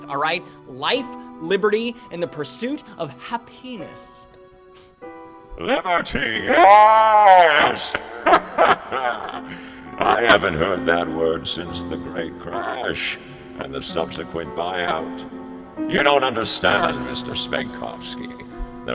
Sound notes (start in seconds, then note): 5.6 laughs